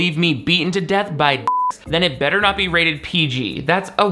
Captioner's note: beep